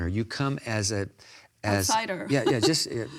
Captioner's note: laughs